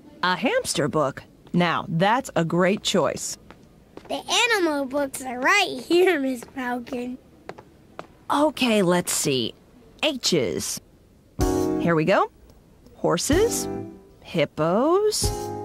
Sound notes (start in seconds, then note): none